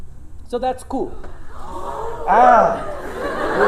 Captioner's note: gasping